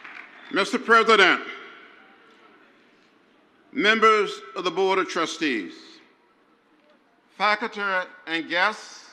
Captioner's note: crowd cheers; crowd applauds